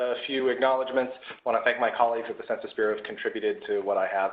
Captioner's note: Arabic